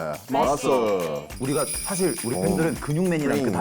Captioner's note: sound of keys clicking